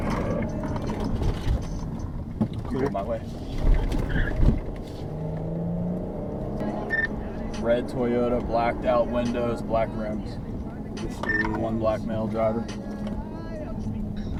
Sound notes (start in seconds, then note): 4.8 car tires screeching